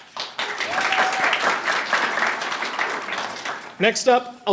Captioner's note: audience applauding and cheering